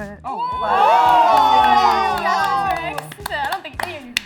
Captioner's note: all cheering